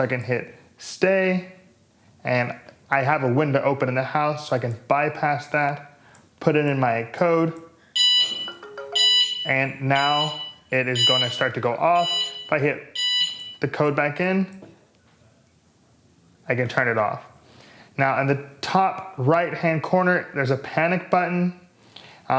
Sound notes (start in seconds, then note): 11.9 alarm beeps